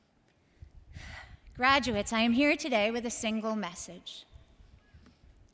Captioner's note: sighs